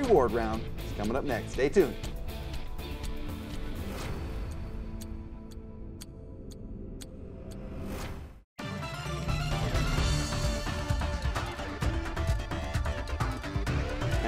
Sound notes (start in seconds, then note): 0.0 energetic music; 1.9 timer ticking; 8.6 energetic music